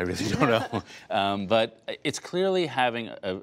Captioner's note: laughter